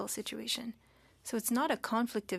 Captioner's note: speaking French